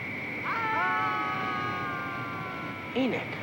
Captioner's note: group yelling